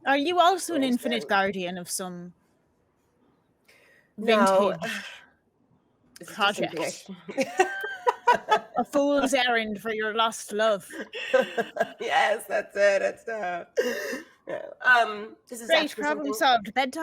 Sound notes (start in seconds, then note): 7.0 laughing